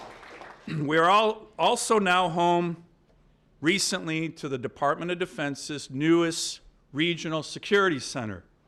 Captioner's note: applause